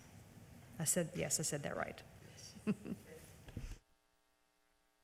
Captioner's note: laughs